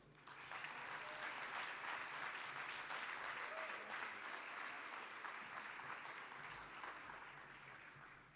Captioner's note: applause